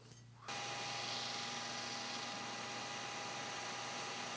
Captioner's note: machine motor hums